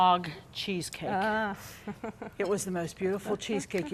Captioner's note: laughs